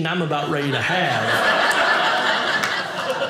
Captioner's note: audience laughing